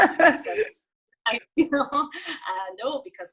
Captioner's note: laughs